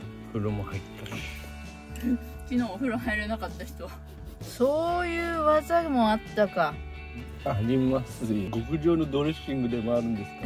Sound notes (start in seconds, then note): 1.9 laughs